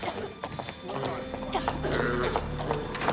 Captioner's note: alarm; fire smoke alarm; alarm